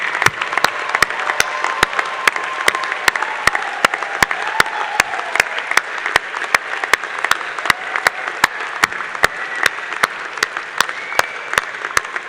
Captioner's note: applause